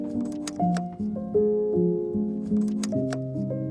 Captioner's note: slides clunking